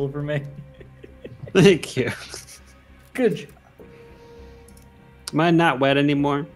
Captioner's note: laughs